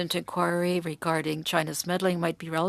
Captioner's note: speaking French